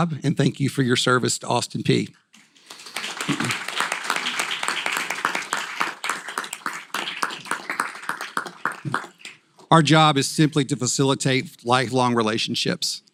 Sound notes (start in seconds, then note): 2.4 applause